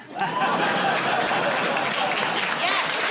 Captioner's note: laughter and applause